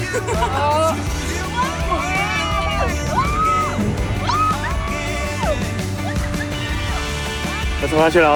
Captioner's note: screaming